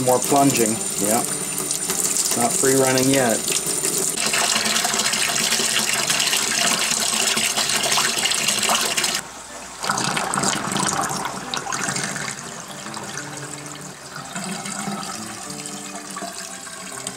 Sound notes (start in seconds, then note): 3.6 water running